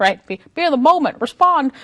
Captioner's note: affected voice